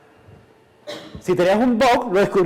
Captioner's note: cough